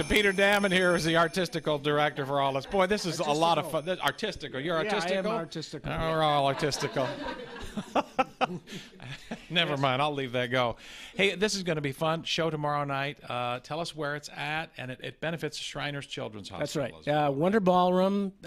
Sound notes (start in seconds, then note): 10.5 laughter